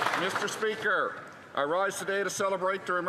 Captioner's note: some Applause